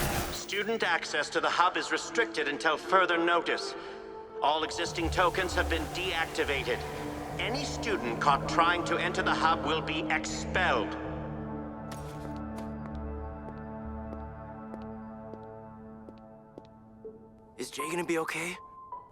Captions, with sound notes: Student access to the hub is restricted until further notice. All existing token have been deactivated. Any student caught trying to enter the hub will be expelled! [footsteps] [soft music] Is Jae gonna be OK?